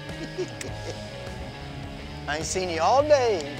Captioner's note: laughs